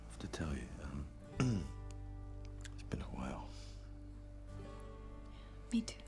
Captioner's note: throat clears